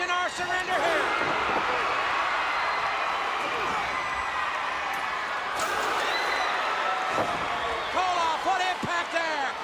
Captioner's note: crowd cheering